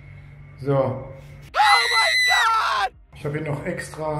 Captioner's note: scream